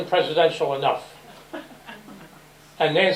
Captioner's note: laughter